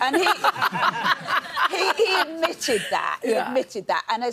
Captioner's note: laughs